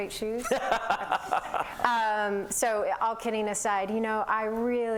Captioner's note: laughter